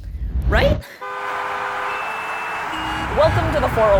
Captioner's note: car honking